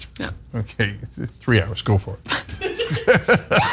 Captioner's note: laugh